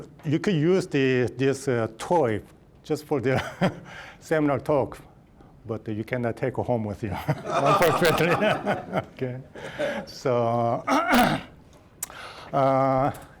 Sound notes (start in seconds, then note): 4.9 laughing; 7.2 all laughing; 10.8 clearing throat